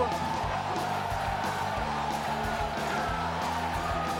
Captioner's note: crowd cheering